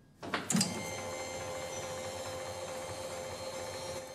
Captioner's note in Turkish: MR cihazı çalışıyor